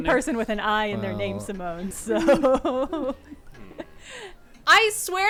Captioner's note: laughs